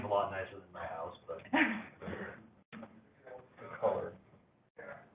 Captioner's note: laughter